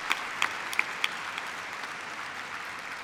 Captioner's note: applause